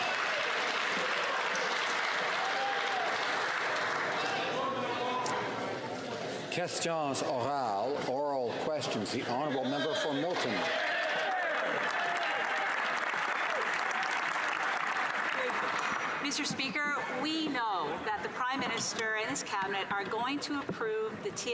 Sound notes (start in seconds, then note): 4.5 applause